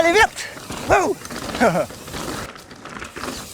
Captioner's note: laughs